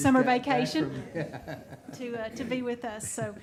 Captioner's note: people chuckling